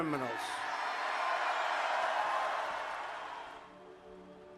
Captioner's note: cheering